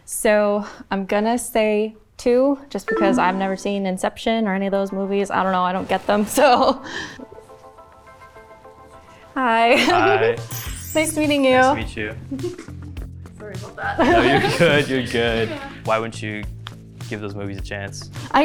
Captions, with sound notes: So I'm gonna say two just 'cause I've never seen "Inception" or any of those movies. I don't know, I don't get them so. (soft music) - Hi. - Hi, nice meeting you. - Nice to meet you. - Sorry about that. (laughs) - No, you're good. (laughs) You're good, why wouldn't you give those movies a chance?